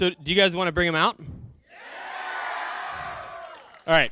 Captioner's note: cheering